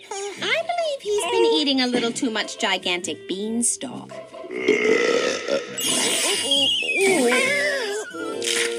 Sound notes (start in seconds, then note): 4.4 belches